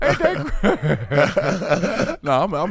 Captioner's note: laughing